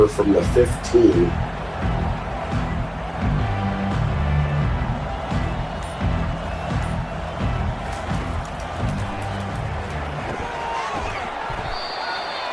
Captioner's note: crowd Noises